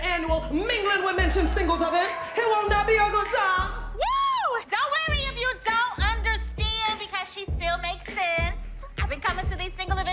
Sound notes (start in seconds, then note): 3.4 anna cheers